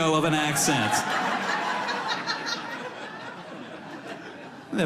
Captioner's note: audience laughs